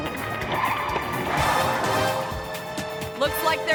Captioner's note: tires screeching